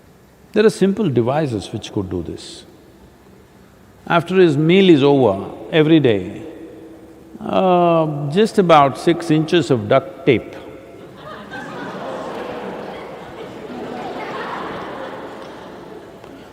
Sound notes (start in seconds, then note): 11.0 laughter